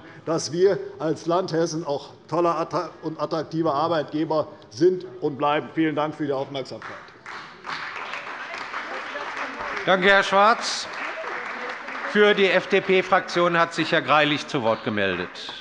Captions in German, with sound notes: dass wir als Land Hessen ein toller und attraktiver Arbeitgeber sind und bleiben. - Vielen Dank für die Aufmerksamkeit. [Beifall bei der CDU und dem BÜNDNIS 90/DIE GRÜNEN] Herr Schwarz, danke. - Für die FDP-Fraktion hat sich Herr Greilich zu Wort gemeldet.